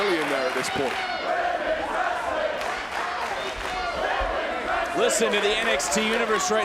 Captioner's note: applause